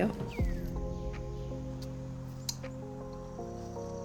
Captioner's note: birds sing